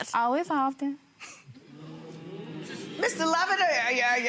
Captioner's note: audience oohs